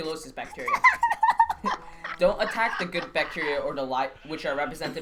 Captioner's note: laughing